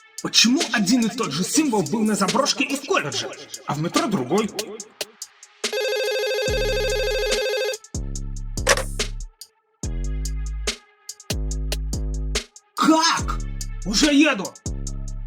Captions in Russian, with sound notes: Почему один и тот же символ был на заброшке и в колледже, а в метро другой?" (телефонный звонок) (звук снятия трубки) – Как?! Уже еду!